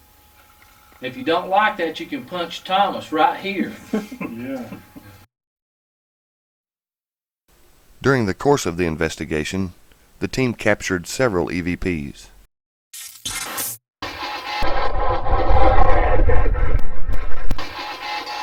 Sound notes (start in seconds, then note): 3.6 laughter